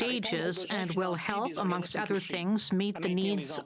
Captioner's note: speaking French